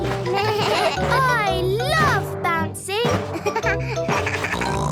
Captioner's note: giggles; bleating; giggles, snorts